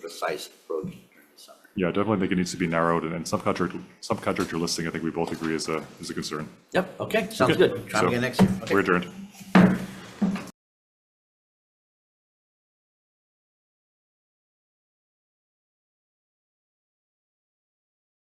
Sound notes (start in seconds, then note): 8.2 gavel pounds